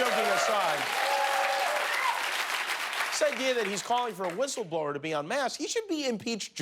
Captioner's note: applause